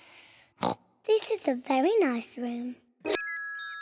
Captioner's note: oinks